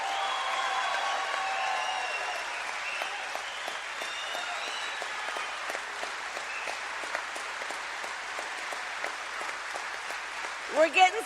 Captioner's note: applause